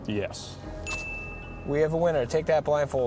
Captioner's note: bell chiming